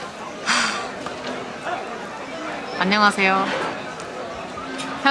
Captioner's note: focus flies away with a sigh